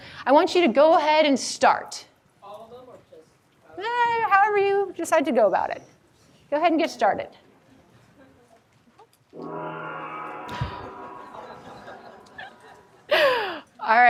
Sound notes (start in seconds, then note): 9.4 gong rings out; 10.4 audience laughing